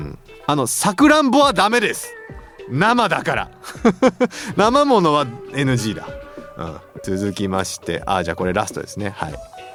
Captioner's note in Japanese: 笑い